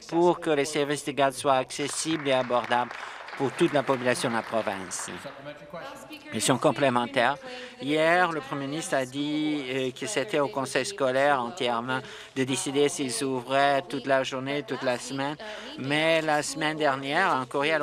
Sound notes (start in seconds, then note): 6.4 applause